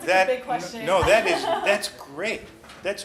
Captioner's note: laughs